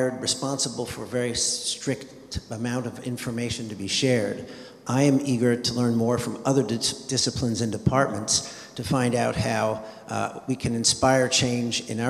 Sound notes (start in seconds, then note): none